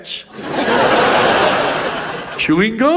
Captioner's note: audience laughs